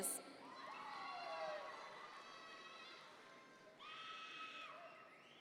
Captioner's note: audience members cheer